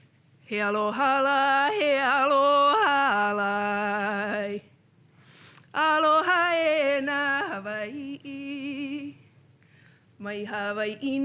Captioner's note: chanting words from slides